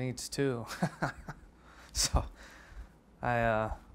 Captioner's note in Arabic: يضحك